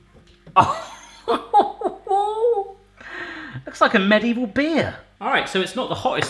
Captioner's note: laughing